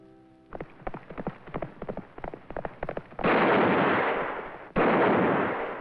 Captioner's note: galloping/Gun Fire/Drumming